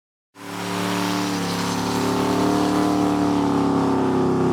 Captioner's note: car engine revving